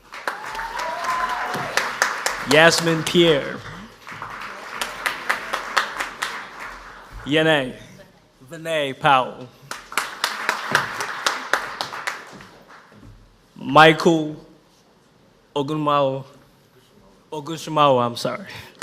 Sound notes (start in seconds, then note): 0.0 audience applauds; 9.6 audience applauds